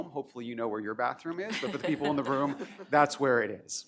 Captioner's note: laughter